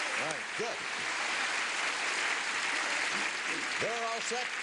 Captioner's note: applause